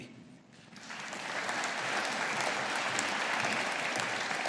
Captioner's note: audience applauding